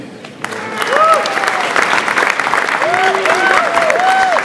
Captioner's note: audience applauds